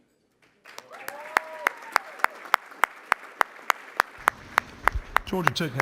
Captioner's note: applause